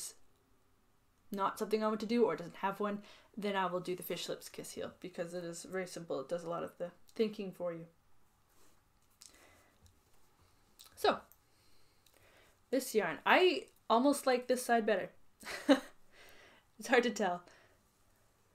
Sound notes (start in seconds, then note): 15.6 laughs